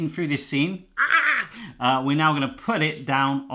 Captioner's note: yells